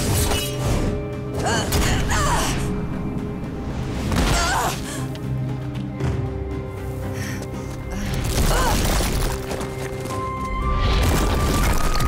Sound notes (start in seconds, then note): 1.0 groaning; 3.8 groaning; 7.9 grunting